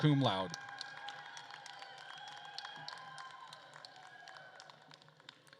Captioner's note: attendees cheering and applauding